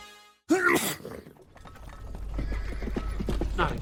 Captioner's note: sneeze; hooves approaching